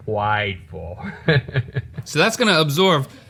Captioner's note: laughing